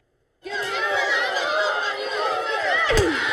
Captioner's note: students cheering